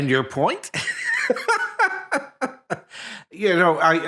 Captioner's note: laughing